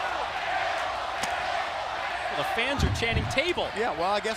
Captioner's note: crowd cheering